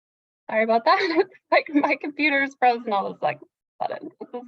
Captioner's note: chuckles